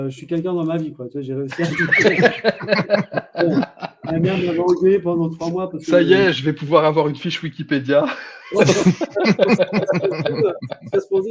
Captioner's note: laughs